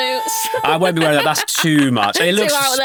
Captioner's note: laughing